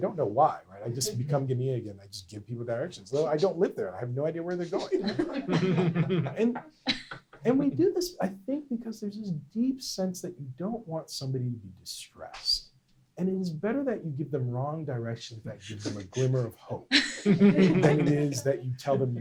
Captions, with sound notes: I don't know why, I just become Ghanian again, I just give people directions though I don't live there, I have no idea where they're going. (laughter) And we do this, I think, because there's this deep sense that you don't want somebody to be distressed. And it is better that you give them wrong directions that give them a glimmer of hope, than it is you tell them